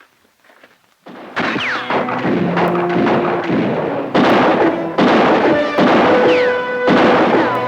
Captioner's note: guns fire; bullets ricochet